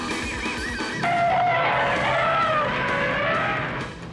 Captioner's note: trumpeting